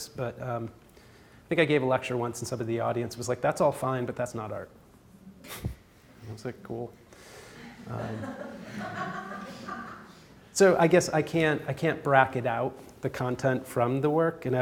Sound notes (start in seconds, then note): 7.6 audience laughs; 7.6 chuckles